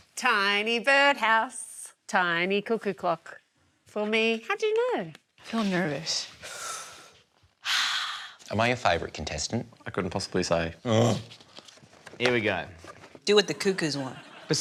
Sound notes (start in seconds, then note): 6.4 inhales deeply; 7.4 sighs